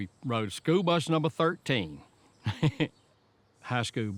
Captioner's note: laughs